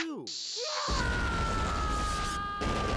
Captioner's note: yelling